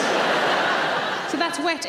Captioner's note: audience laughing